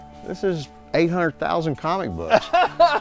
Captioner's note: laughing